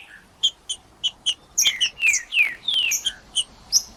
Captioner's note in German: trinca ferro cantando